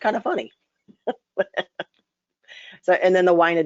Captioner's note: laughs